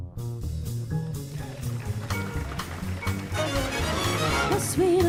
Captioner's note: audience applauding